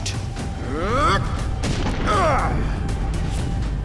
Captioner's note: grunting